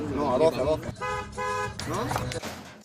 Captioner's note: horn